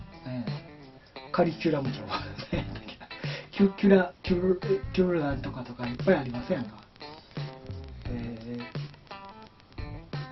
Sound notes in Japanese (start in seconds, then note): 2.1 笑い